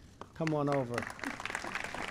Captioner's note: applause